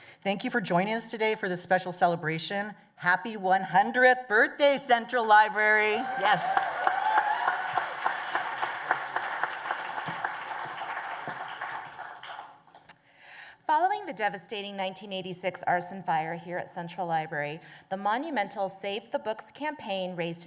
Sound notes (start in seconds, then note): 7.3 applause and cheers